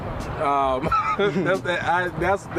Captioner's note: laugh